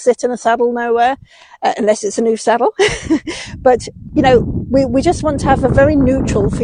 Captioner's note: giggles